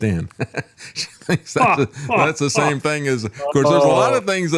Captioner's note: laughing